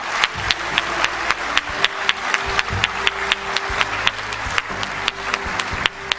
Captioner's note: applause